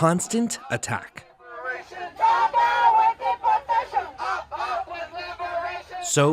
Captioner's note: crowd chanting